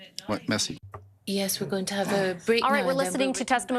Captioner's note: speaking in French